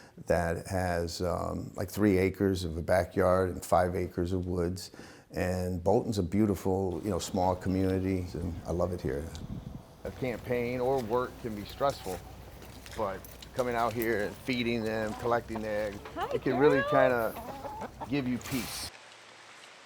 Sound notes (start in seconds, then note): 17.4 chickens clucking